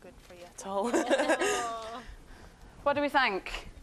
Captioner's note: laughing